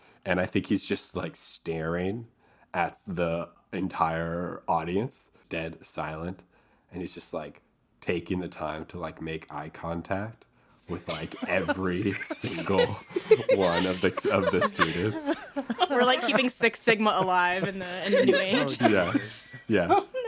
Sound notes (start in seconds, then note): 14.5 laughter; 18.8 laughter